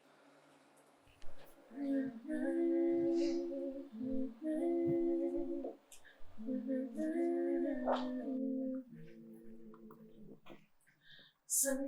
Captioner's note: Muses humming "Motherless Child" in unison